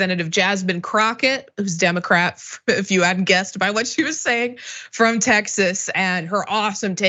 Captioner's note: laugh